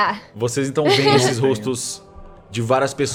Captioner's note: laughs